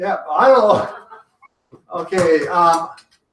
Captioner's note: laughing